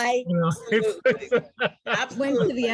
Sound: laughing

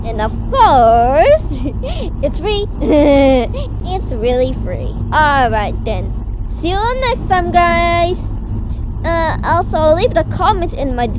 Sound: laughs

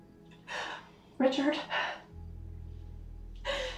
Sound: sobbing

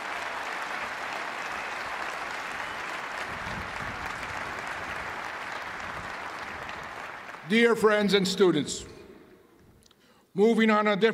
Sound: cheers and applause

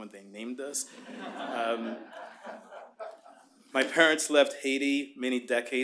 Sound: laughter

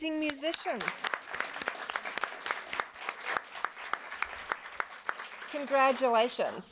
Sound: applause

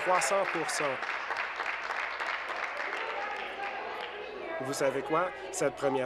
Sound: applause

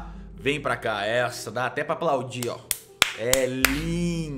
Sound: clapping

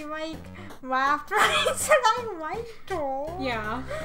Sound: laughing

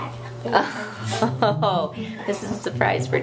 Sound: laughing

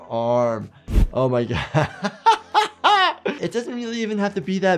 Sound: laughing

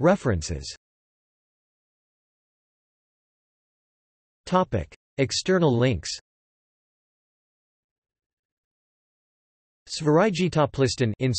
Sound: in Swedish

